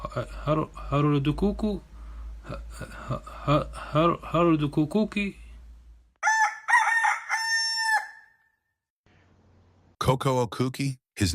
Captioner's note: rooster crowing